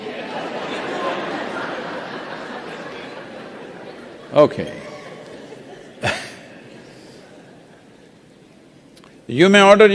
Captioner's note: laughs